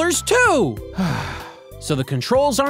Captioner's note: sigh